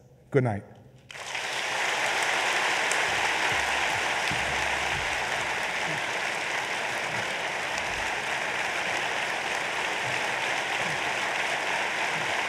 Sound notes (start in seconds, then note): 1.1 applause